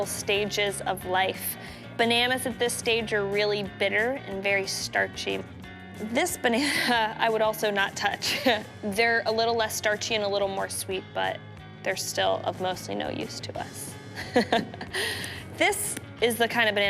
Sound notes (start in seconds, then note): 14.2 laughing